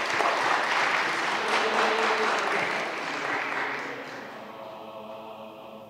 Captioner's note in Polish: oklaski